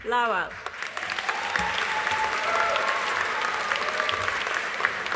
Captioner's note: audience applauding